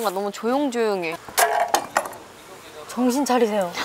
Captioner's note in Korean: 우당탕탕